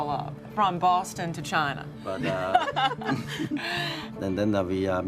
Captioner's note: laughing